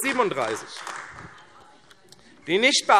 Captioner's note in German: Beifall AfD - Zuruf: Falsch!